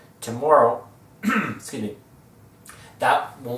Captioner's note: cough